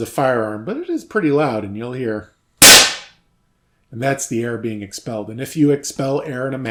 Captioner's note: bang